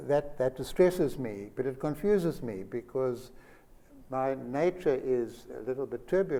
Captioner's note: none